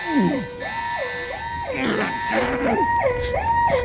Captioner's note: moaning